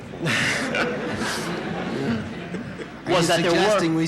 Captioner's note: laughter in the courtroom